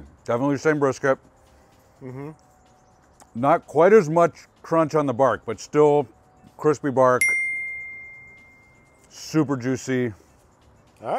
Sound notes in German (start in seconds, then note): 7.2 Glocke klingelt